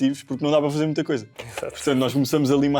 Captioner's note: laughs